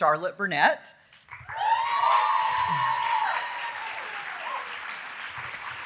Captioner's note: audience cheering and applauding